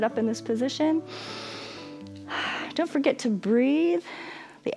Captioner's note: inhales and exhales